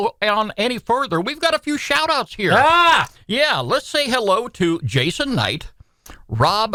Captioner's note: shouts